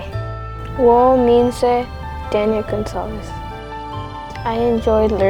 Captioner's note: Mandarin